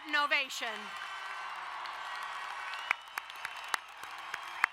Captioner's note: cheering and applauding